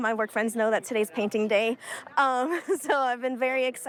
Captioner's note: laughs